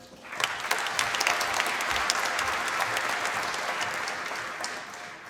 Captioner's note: applause